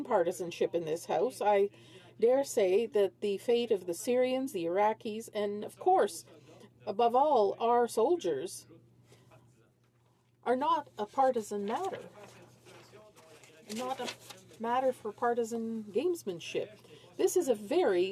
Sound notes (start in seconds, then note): none